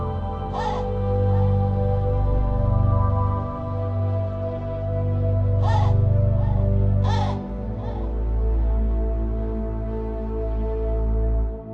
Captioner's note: raven squawking